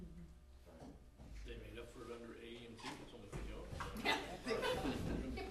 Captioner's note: background laughter